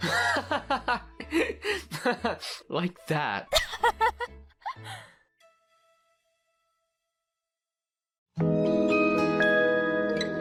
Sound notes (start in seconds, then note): 0.0 joshua laughs; 3.5 amanda laughs